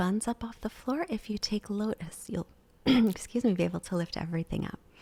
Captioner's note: clears throat